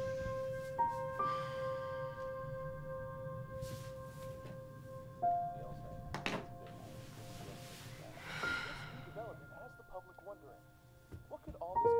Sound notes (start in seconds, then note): 1.2 light somber music; 6.3 reporter talking in background